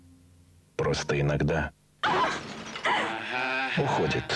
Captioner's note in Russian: крик